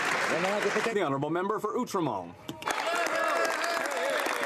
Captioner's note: some Applause